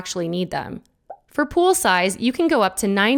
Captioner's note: text blooping